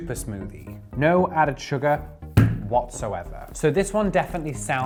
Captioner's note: bottle thuds